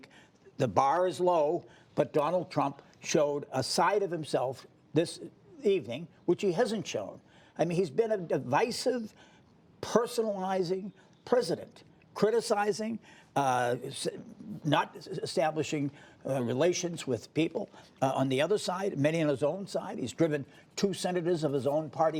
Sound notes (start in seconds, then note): none